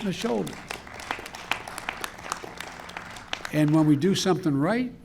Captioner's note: applause